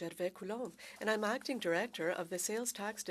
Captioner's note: speaking French